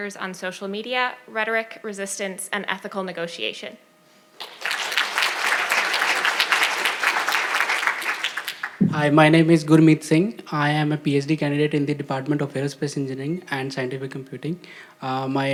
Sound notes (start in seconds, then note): 4.4 audience applauding